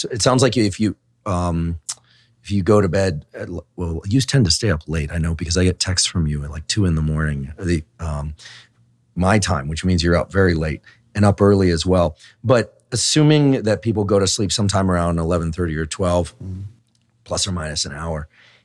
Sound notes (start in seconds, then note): none